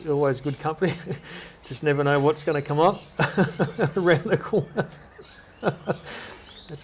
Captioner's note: laughter